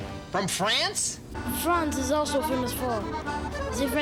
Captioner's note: French accent